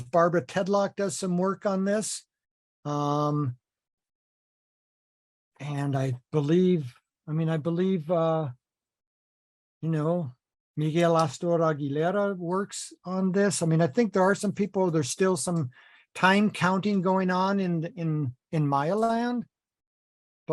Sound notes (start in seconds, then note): none